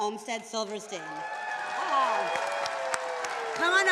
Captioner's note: attendees cheering